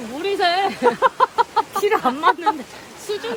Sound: laughing

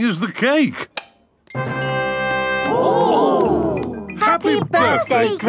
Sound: click

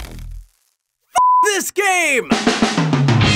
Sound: beep; upbeat music

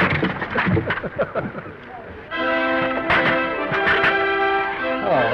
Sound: Danny laughs

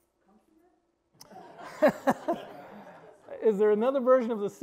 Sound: all laughing heartily

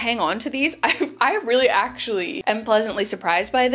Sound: chuckles softly

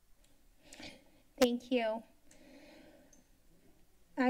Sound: breathing

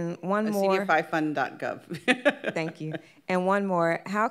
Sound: laughs

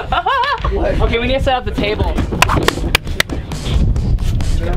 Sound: clapping

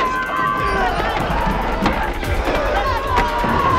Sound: all screaming

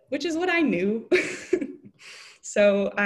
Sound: laughing

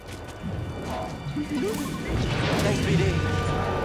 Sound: boop-trill

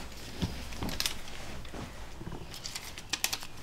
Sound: pens clicking, paper rustling

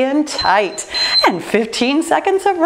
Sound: timer beeping

